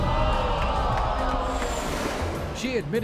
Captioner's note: crowd gasping